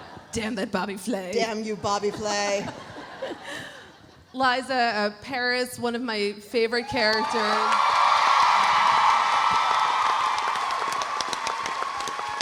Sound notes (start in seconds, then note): 2.6 laughs; 6.9 audience cheering; 7.1 audience applauding